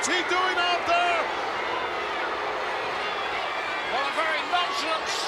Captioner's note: crowd boos